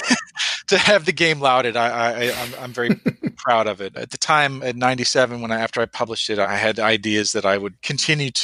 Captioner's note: laughs